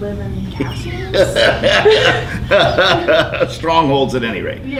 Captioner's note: laughing